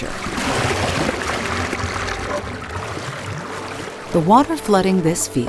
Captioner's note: water gushing